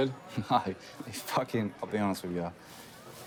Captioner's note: chuckles